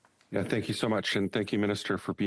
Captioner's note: speaking French